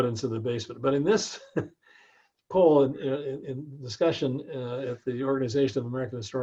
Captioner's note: laugh